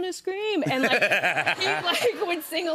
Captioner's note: laughter